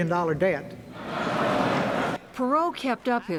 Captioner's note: laughter